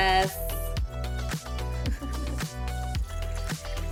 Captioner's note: laughs